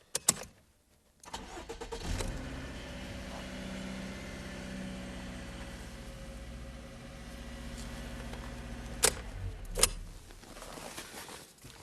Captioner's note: engine starts and runs